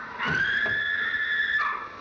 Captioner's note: screaming